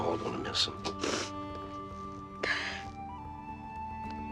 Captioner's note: Edith sniffling